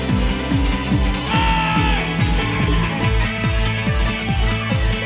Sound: shouting

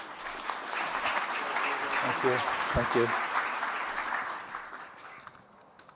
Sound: applause

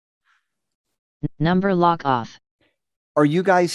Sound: computer Voice

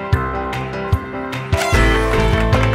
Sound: party horn; clapping

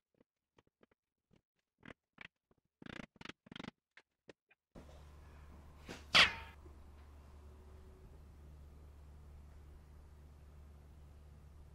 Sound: sped up sounds of wooden mallet being used

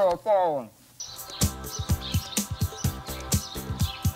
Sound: birds chirping

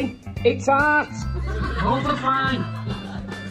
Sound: audience laughs

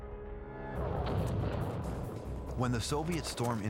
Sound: explosion

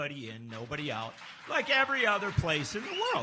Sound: applause

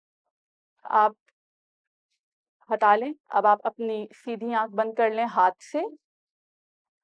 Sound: in Urdu

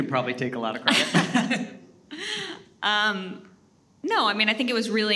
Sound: both laughing

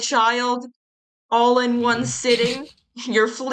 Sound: laughs

